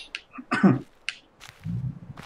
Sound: coughs

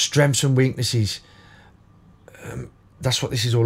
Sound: silence

